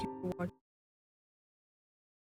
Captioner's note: audio glitch